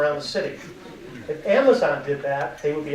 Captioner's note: audience laughing